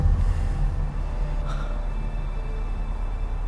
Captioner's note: gasps